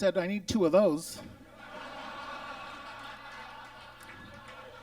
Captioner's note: audience laughs